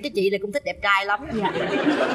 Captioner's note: laughter